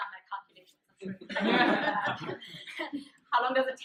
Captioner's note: laughter